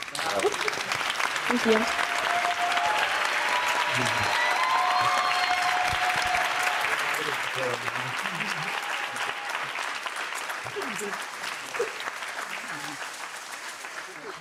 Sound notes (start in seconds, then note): 0.1 audience applauding; 2.6 audience cheering